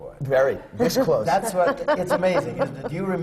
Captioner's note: laughs